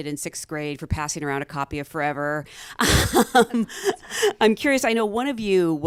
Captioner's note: laughs